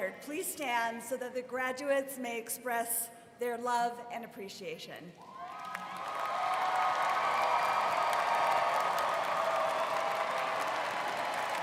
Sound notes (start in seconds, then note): 5.3 students cheering and applauding